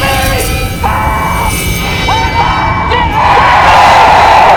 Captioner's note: Ryan yelling; screaming